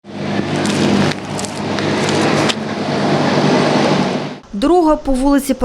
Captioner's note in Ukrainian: звук двигуна вантажівки